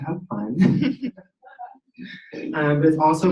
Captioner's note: laughing